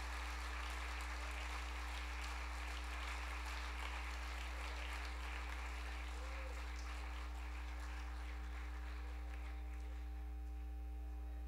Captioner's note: applause